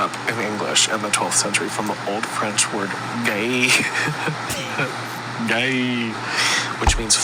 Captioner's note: laughs